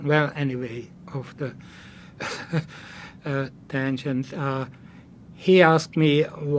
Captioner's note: laughing